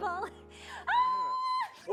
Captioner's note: screams excitedly